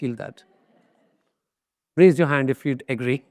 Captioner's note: audience laughs